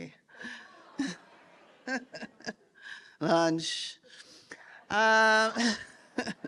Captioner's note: laughs; laughs